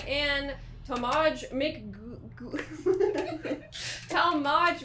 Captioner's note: laughing